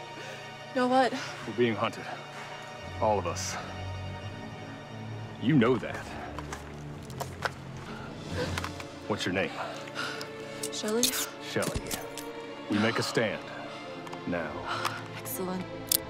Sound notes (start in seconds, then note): 7.8 gasps